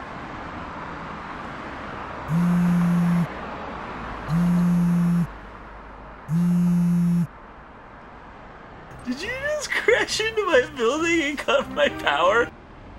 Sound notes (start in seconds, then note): 2.2 phone vibrates